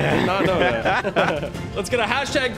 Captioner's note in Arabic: تضحك